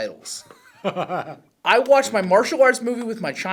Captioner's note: laughs